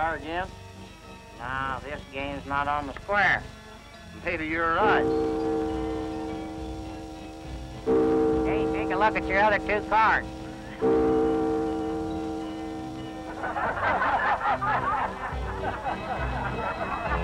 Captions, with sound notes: You want to try this just once more? Shall we try here again? No, this game's not on the square. I think you're right. [bells tolling] Say, take a look at your other two cards. [laughter]